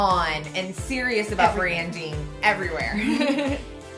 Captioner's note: laughs